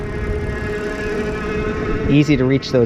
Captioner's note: motor engine roaring